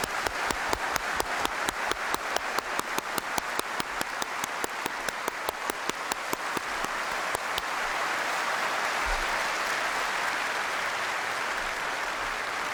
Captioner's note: applause